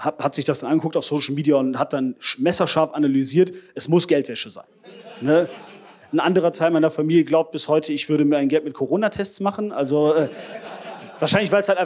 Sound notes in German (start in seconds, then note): 4.8 Gelächter; 10.1 Gelächter